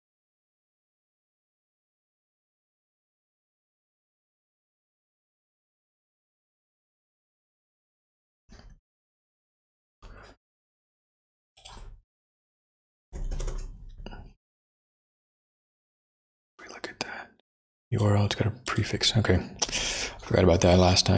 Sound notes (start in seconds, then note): 0.0 blank Audio